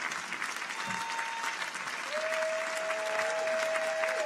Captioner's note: people cheer